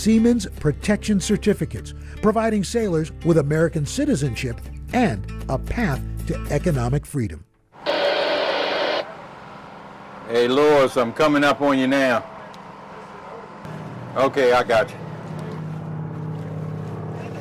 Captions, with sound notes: Siemens protection certificates, providing sailors with American citizenship and a path to economic freedom. (radio static) - Hey, Lawrence, I'm coming up on you now. Okay. I got you.